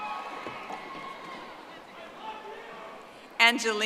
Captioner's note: audience applauding